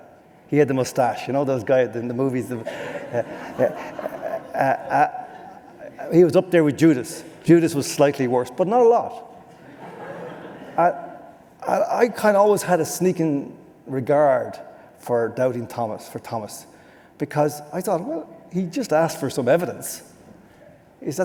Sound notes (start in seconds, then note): 2.6 laughter